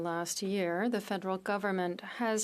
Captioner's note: speaking French